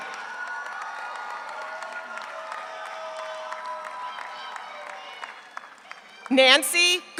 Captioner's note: audience applauds; audience cheers